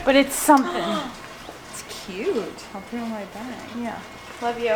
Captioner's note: gasps